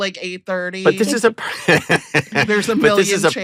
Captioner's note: laughs